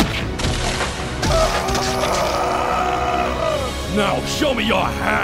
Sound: screaming

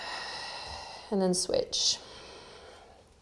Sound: heavy breathing

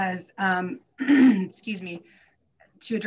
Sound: clears throat

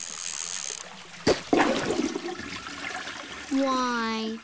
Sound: toilet flushes

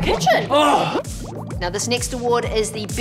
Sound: bubbles

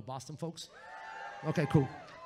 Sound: audience cheers

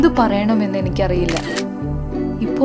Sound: camera clicks

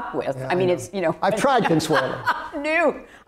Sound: laughs

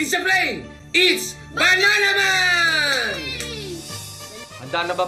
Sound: Ana cheers

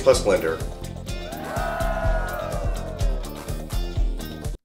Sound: crowd Cheers

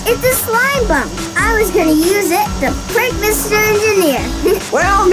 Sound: giggles

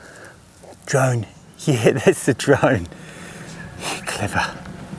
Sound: laughing

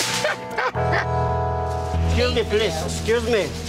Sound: laughing

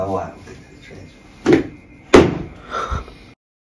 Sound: thwack

